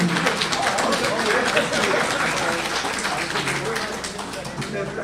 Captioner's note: applause